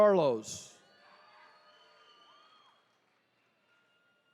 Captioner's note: attendees cheering